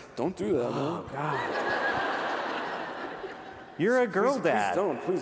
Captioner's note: laughter